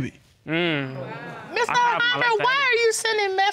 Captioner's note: audience exclaims